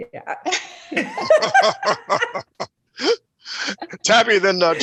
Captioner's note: laughter